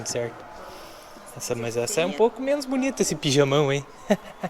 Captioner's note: laughs